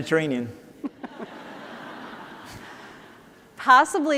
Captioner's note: laughter